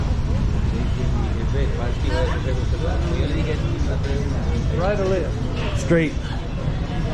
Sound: people speaking in spanish

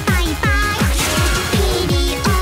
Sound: bang!

